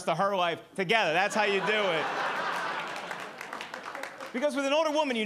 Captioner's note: audience laughing and clapping